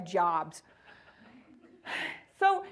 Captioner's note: audience laughing